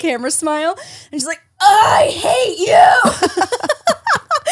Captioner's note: groaning; laughs